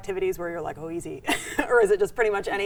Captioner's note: laughs